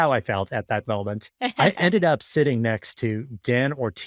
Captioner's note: laughing